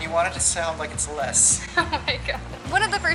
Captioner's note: laughter